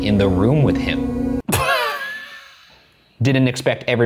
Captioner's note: laughing